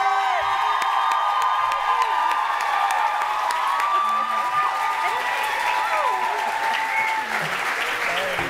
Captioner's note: cheering and applause